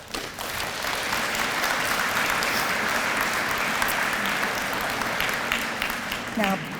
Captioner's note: audience applause